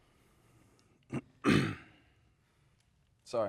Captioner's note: clearing throat